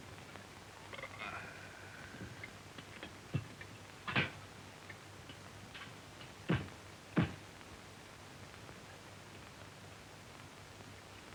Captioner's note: belches